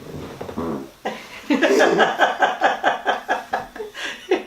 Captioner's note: laughter